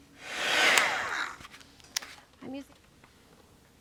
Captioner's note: heat tool whirs